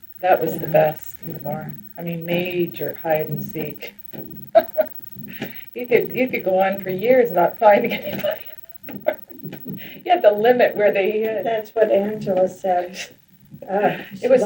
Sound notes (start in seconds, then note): 5.1 laughs; 9.5 laughs